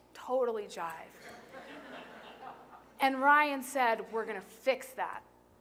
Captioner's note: laughter